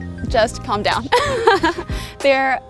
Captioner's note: laughs